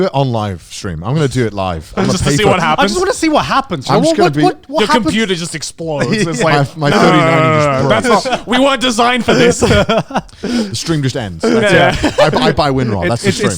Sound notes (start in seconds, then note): 6.9 groans; 9.8 speakers laughing